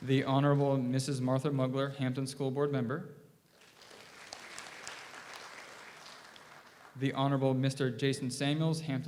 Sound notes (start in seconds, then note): 3.5 audience applauds